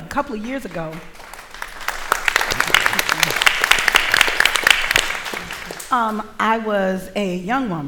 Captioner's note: applause